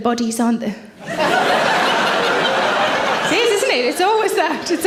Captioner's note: audience laughs